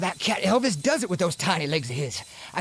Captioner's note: cat bell jingling